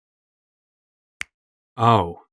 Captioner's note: finger snap